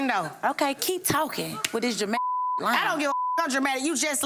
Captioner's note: beep